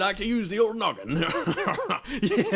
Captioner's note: kingly Laugh